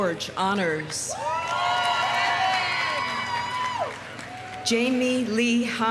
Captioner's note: audience cheering; audience applauding